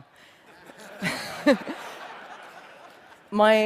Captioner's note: laughter